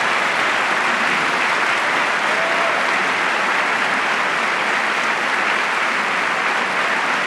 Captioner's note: applause